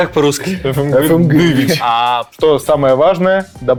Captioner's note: saying the name with a Russian accent